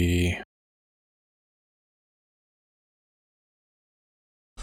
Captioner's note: blank Audio